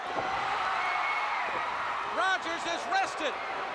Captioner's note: crowd cheering